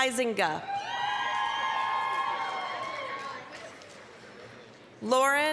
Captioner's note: applause, cheering